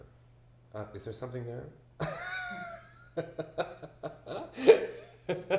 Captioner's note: laughs